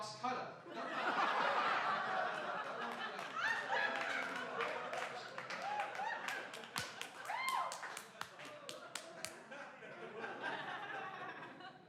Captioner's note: laughing